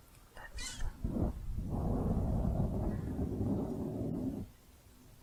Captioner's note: dense mic scratching